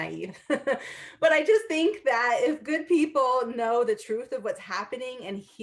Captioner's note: laughter